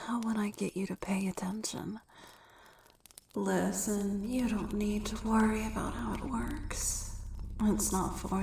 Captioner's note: echoing